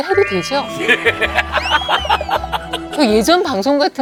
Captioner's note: laughing out loud